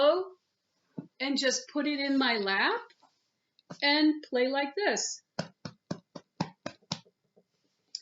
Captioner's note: tap tap tap tap tap tap tap